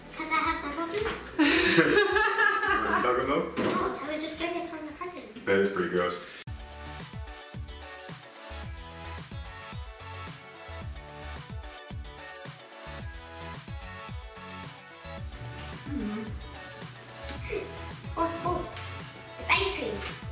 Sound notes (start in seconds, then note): 1.4 laughing